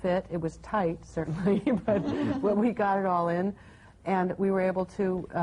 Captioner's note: laughs